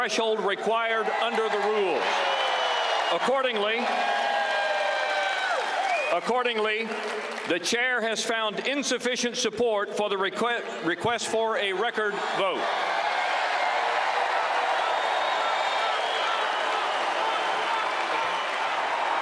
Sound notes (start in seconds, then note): 4.0 cheers